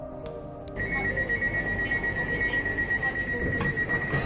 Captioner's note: train door beeps